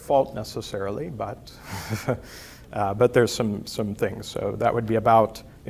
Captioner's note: laughs